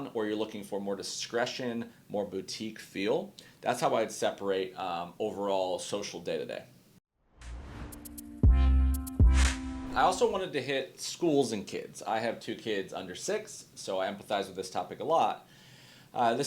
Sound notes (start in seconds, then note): 7.2 graphic swooshing; 7.4 chill instrumental music